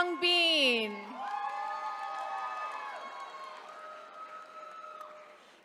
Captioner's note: attendees cheering